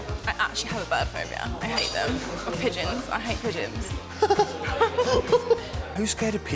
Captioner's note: laughs